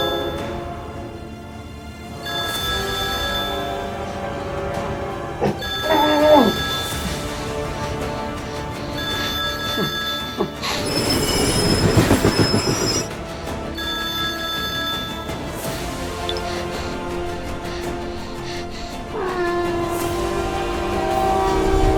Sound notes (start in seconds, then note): 5.5 muffled screaming and phone ringing continues; 10.9 train brakes screech; 14.0 phone ringing and stops; 19.1 muffled screaming